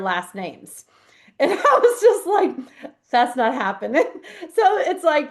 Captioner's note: laughs